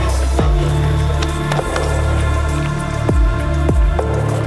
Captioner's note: hands tapping